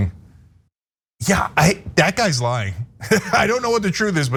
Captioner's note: laugh